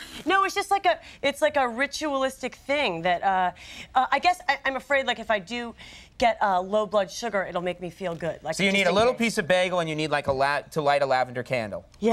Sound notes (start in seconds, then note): none